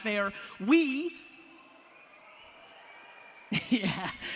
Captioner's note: audience cheers; laughs